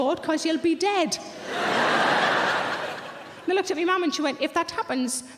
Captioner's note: audience laughing